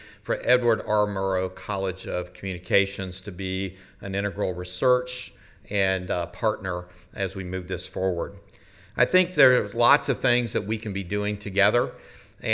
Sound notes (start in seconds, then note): none